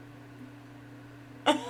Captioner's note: laughing